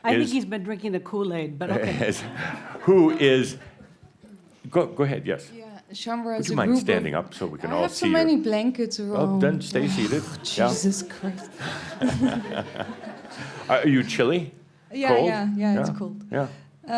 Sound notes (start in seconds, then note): 2.0 a few chuckles; 12.8 laughter